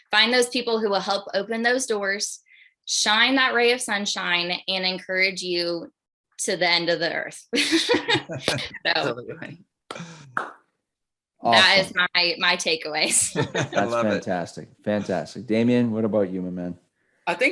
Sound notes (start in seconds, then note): 7.8 laughs